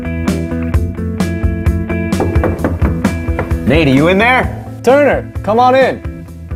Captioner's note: knocking